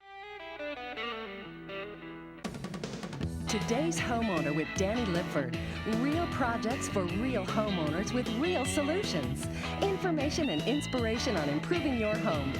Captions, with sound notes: (bright upbeat music) - [Voiceover] "Today's Homeowner" with Danny Lipford, real projects for real homeowners with real solutions. Information and inspiration on improving your home